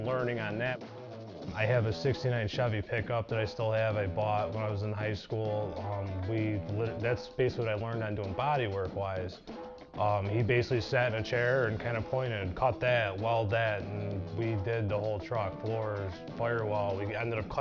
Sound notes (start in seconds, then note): none